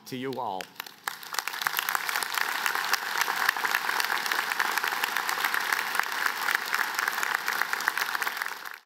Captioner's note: applause